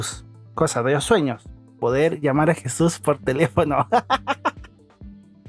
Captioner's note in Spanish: risas